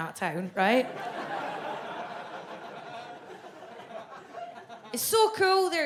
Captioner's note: audience laughs